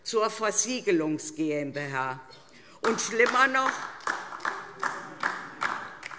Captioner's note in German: Beifall DIE LINKE